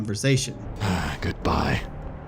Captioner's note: exhausted, almost angrily